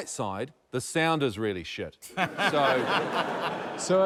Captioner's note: laughter